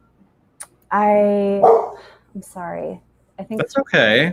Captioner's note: dog barks